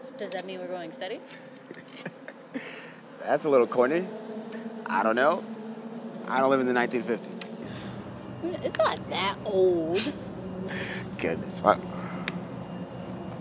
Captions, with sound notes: - So does that mean we're going steady? (both laugh) - That's a little corny. I don't know. I don't live in the 1950s. - Dude, it's not that old! - (laughs) Goodness.